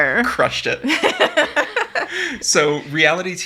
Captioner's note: laughing